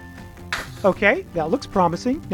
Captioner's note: lander thuds